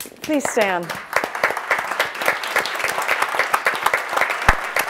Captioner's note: audience applauds